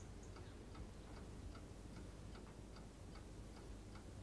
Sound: clock ticking

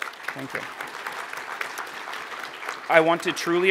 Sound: applause

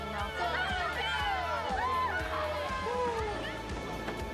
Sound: cheering

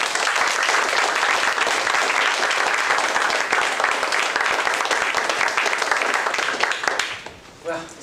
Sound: applause

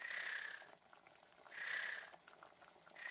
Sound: snoring

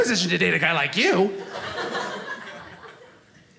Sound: audience laughing

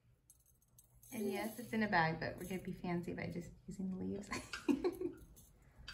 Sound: giggle

